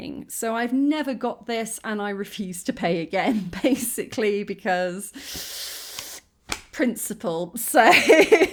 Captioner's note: intake of breath; laughing